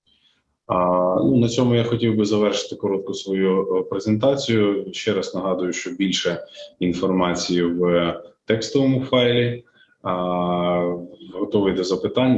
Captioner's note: foreign Language Spoken